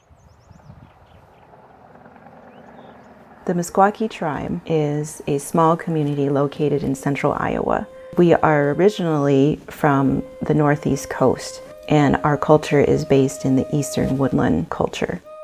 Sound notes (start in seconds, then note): 1.5 birds chirping, Highway 30 traffic